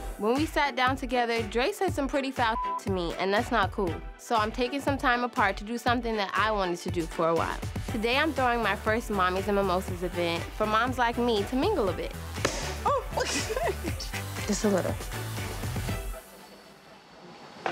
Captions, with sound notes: - When we sat down together, Dre said some pretty foul (beep) to me and that's not cool. So I'm taking some time apart to do something that I wanted to do for a while. Today I'm throwing my first mommies and mimosas event for moms like me to mingle a bit. (champagne pops) Just a little.